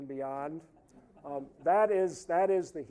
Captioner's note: audience laughing